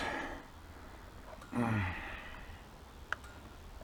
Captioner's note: grunting